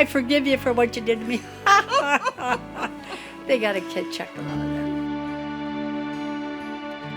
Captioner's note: laughs